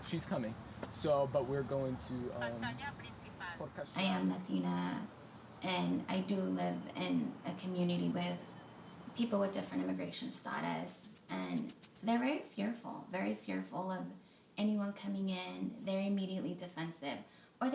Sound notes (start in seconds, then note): 2.6 phone speaking in Spanish